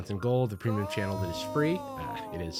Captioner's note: disembodied voice